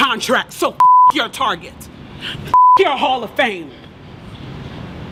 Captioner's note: beep